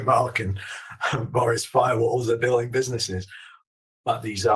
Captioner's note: laughs